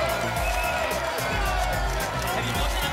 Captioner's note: applause and cheering cont